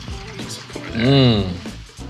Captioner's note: wine splashing; chill instrumental music continues